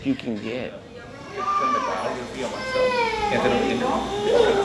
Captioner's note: child cries in a noisy room